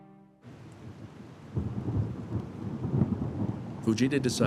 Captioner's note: thunder rumbling